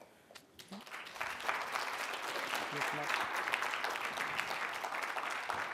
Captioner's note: audience clapping